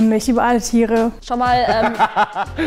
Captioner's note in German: Lachen